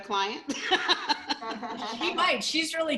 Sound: laughter

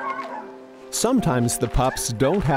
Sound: pups barking

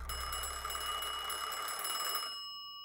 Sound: phone rings

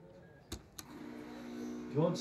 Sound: coffee machine

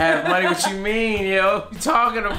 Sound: laughing

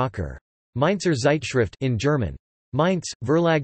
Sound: in German

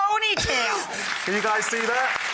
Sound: laughing

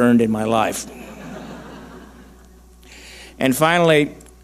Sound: audience laughing

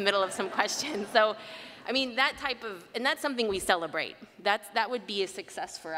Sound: laughter

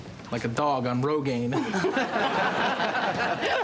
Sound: all chuckle; Rick laughs

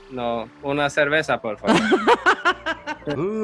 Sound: laughs

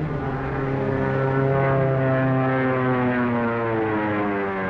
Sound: airplane rumbling; airplane buzzing

